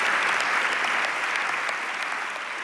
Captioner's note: audience applauds